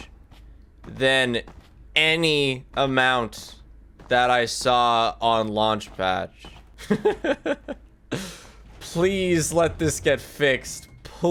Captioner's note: laughs